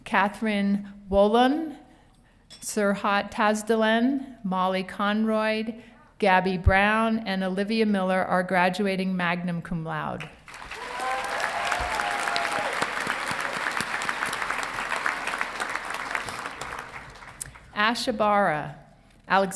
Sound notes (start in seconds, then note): 10.4 audience applauding and cheering